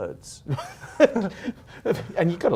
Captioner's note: laughing